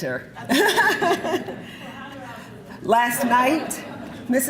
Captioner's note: giggling